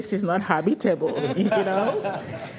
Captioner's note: laughter